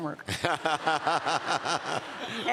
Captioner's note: laughter